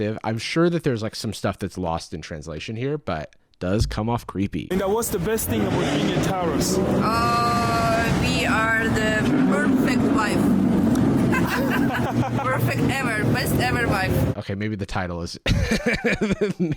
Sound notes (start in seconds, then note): 11.0 laughs; 15.5 laughs